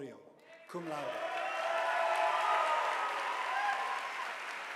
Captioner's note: audience applauding